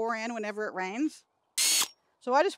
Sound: drill accelerates

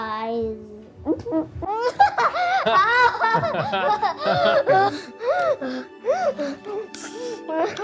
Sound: laughter

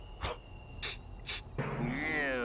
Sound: sniffing

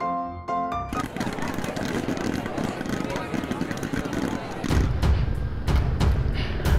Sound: popcorn pops; crowds of people speak

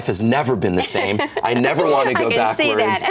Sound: laughs

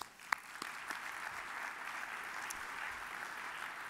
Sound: audience applauds

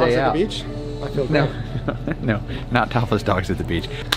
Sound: laughs

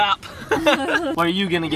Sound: laughs

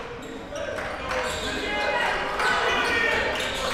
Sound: crowd cheering

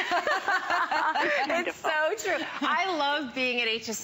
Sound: laughter

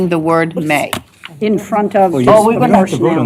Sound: indistinct chatter

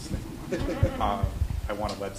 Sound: chuckles; audience laughing

